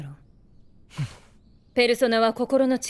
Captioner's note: sigh